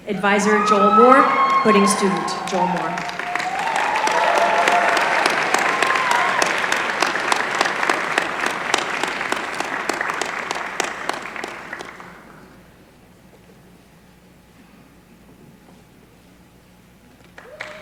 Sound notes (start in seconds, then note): 3.2 applause